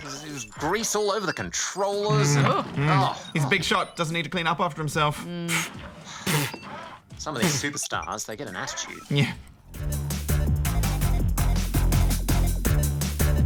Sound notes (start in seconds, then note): 7.7 sighs